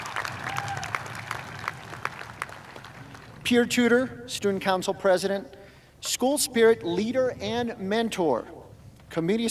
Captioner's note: cheers and applause